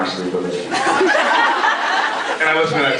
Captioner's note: laughs